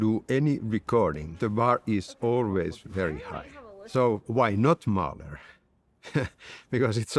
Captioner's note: laughs